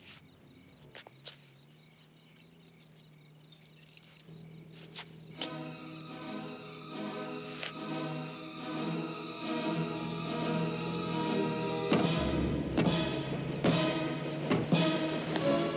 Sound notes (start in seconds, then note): 11.8 banging